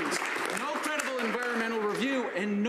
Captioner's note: some Applause